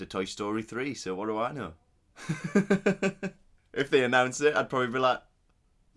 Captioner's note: laughs